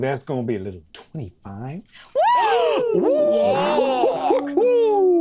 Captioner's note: all cheering